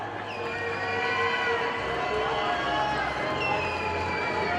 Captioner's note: audience cheers